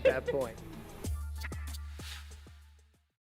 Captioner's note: laughter